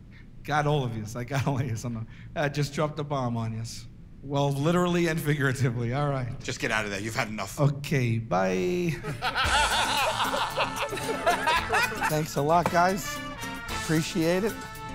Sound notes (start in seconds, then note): 8.9 laughter